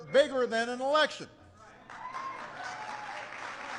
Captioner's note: applause